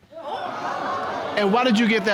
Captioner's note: audience exclaiming